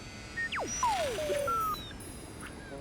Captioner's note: beeps